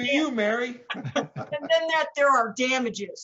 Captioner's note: all laugh